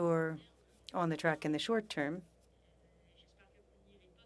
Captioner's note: speaking French